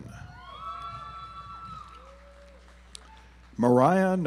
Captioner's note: audience applauds